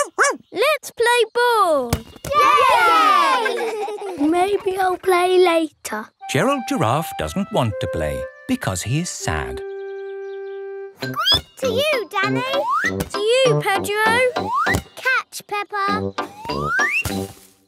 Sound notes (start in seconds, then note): 0.0 barks; 2.3 all cheering and laughing; 11.1 squeaks